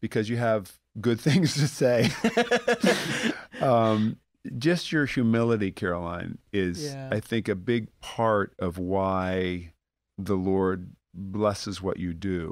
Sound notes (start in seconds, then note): 1.9 laughter